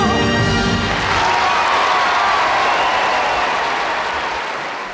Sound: audience applauding

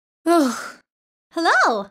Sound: sighs

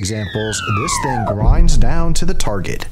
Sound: rocket whooshing; rocket explodes

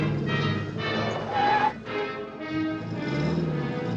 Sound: tires Screech

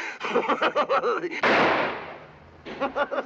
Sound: gunshot

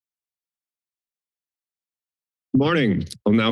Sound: silence

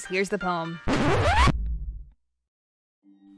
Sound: record scratch

